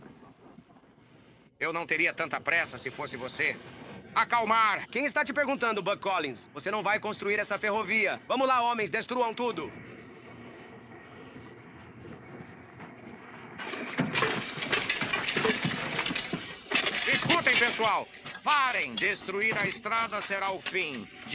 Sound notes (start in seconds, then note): 13.6 clanking